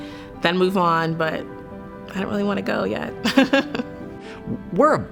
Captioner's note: laughs